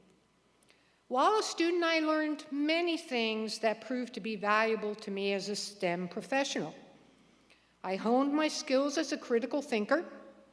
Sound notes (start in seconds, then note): none